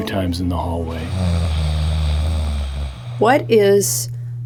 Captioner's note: snoring sound effect